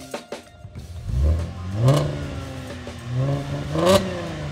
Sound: engine revs

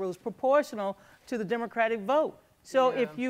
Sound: none

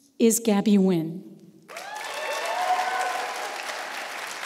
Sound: applause

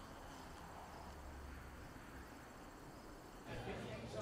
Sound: flies buzz

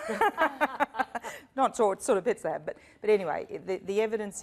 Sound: laughter

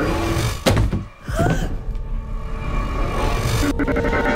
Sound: gasps

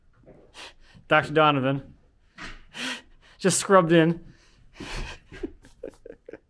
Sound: laughing

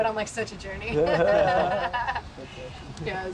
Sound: laughing

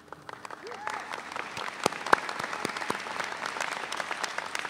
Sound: audience cheering

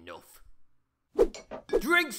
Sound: clinking

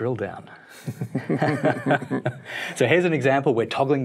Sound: both laugh

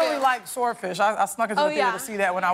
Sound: cheers and applause

